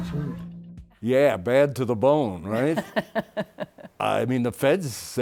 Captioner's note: laughs